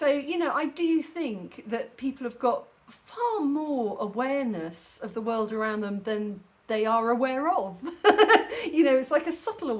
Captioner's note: laughing